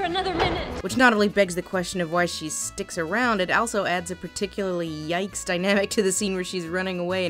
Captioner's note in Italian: voce fuori campo